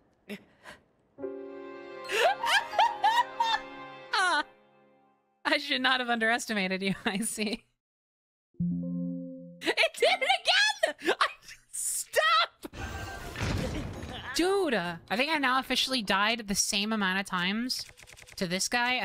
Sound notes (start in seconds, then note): 2.2 humbled Laughter; 8.6 Windows “Ba-da-Bum”